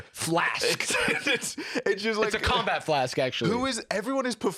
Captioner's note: laughs